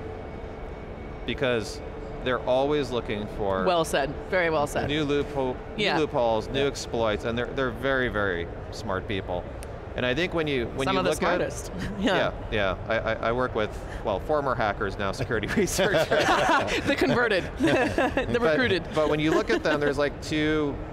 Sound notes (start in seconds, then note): 15.2 all laughing